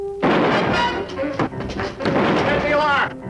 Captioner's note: gun shooting